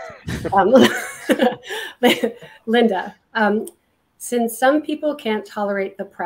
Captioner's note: laughing